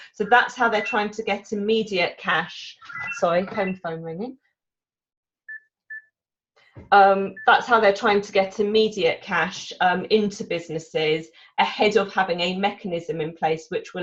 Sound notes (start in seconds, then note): 2.8 phone rings; 7.3 phone beeps